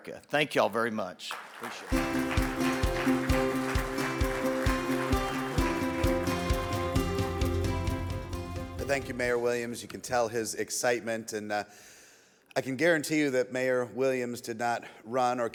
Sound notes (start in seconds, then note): 1.3 audience applauds; 1.9 bright music